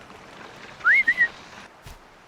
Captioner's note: whistle